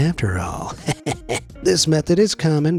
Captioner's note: speaker chuckles